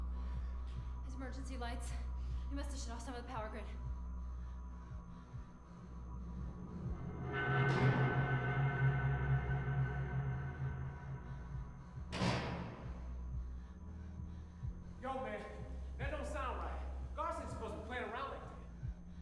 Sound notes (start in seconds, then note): 6.2 dramatic music; 12.0 door slams